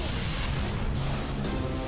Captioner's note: metallic crunch and explosion